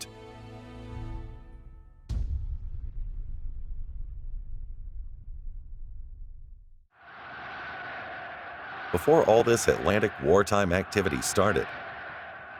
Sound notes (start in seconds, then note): 0.0 suspense music; 2.1 explosion sound effect; 7.0 people cheering